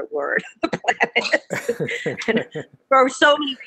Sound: laughing

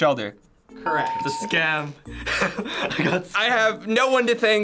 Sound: laughing

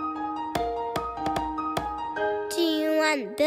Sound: gentle music; knocking

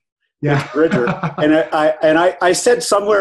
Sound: laughs

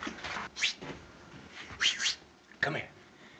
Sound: whistles

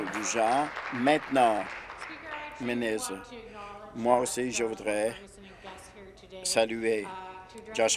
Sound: applause

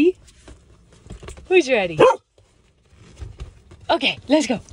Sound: Camper barking

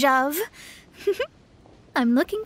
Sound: chuckles

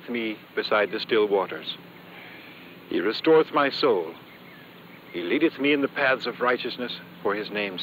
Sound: none

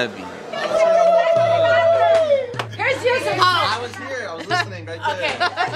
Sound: oohh; yelling

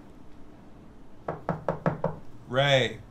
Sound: knocking

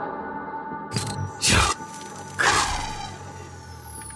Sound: robotic voice

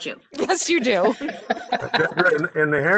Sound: laughter

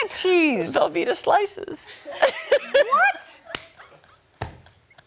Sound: laughter

